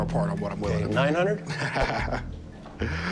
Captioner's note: laughs, inhales